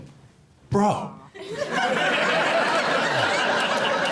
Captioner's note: audience laughs